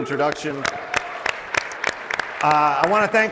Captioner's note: applause